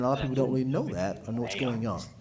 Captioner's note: ~audio distortion~